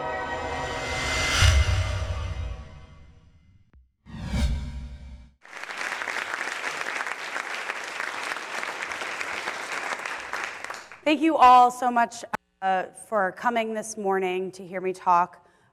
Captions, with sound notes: (audience applauding) - Thank you all so much for coming this morning to hear me talk.